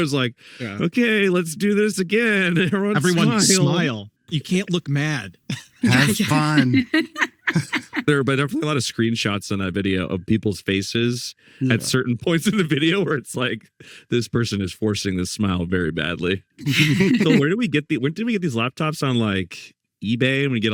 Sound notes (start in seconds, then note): 7.1 laughing